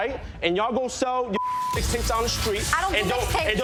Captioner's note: beep